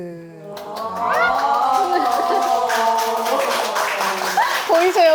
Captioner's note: applause breaks out